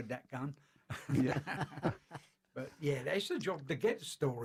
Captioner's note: laughter